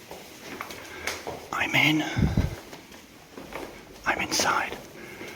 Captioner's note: whisper; whispers